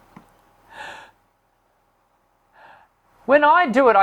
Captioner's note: inhales deeply